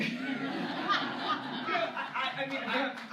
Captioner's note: laughter